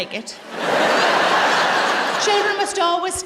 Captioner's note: laughter